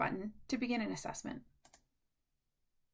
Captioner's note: click